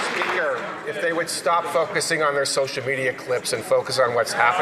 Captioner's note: some Applause